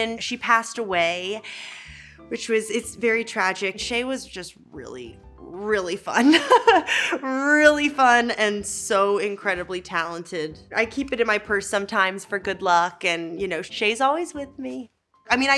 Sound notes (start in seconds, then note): 6.2 Elle laughing